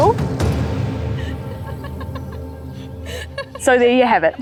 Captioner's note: laughing